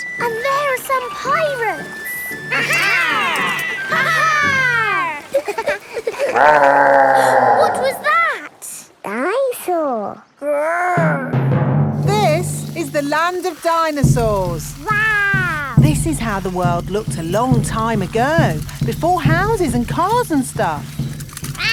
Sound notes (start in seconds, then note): 5.9 laughing; 6.1 growling; 7.7 gasps